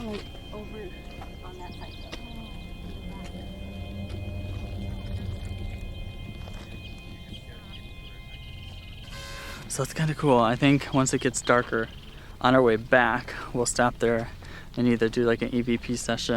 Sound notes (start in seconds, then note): 0.3 car; 6.1 birds chirping; 6.1 creepy music